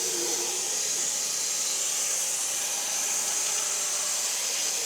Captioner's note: saw buzzing continues